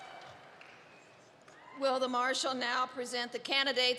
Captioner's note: applause